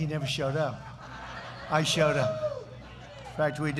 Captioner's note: laughter